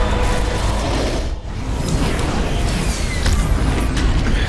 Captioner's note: whooshing